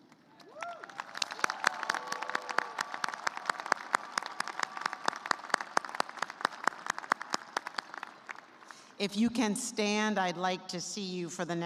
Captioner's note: cheers and applause